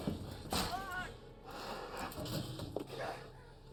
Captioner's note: screams